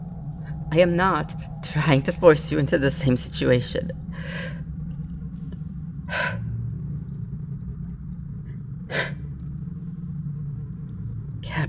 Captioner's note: deep breath